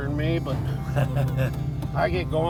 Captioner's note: laughs